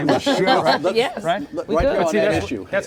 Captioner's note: laughing